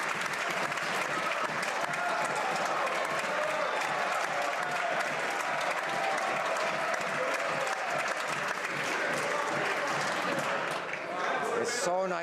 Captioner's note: some Applause